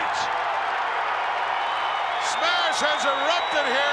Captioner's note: crowd roaring